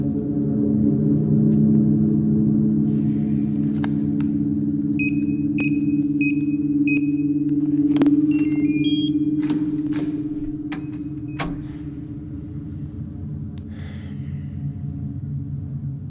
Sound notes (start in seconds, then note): 4.9 beeping; 9.8 dark instrumental music